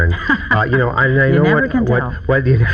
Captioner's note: laughing